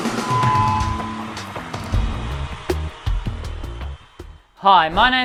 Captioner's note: audience screaming